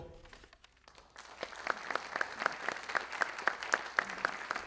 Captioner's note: audience clapping